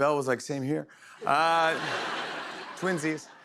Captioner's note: laughter